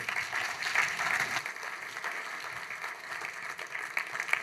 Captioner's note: applause